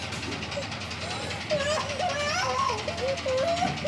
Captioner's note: Abby sobs